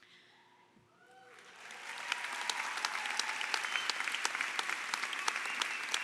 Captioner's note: applause